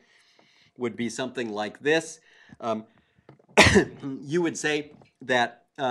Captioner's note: cough